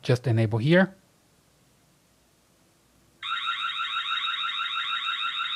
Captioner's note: alarm